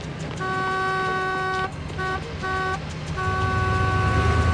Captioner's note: horn honking